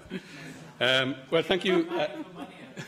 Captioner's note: laughter